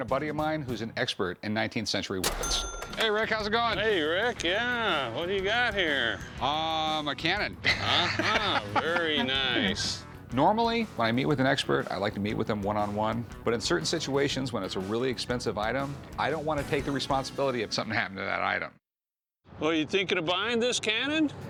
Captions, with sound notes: is an expert in 19th century weapons. Hey, Rick, how's it going? Hey, Rick. Yeah, what do you got here? Um, a cannon. [laughs] Uh-huh. Very nice. Normally, when I meet with an expert I like to meet with him one on one. But in certain situations, when it's a really expensive item, I don't want to take the responsibility if something happened to that item. Well, are you thinking of buying this cannon?